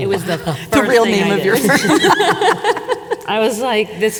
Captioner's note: laughs